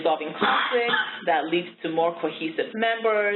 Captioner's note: coughing